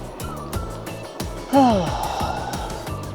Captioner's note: sighs